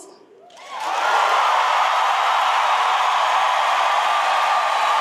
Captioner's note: audience cheers and applauds